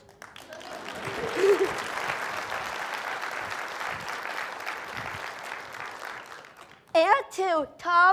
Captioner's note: applause